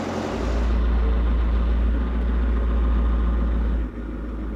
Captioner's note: crane engine rumbling